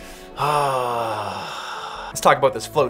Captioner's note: sighs